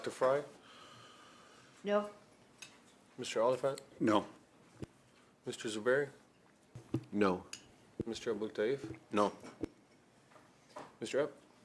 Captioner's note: calling of recorded vote